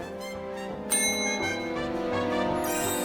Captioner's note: ding